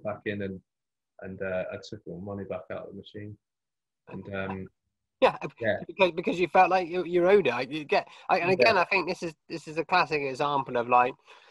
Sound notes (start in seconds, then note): none